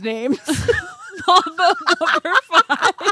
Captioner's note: laughing